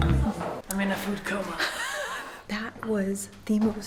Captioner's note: laughs